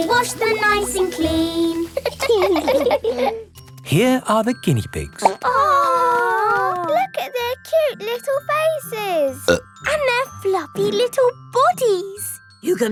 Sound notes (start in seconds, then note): 2.1 laughing; 5.2 plop